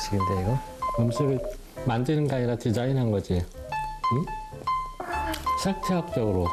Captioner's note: laughs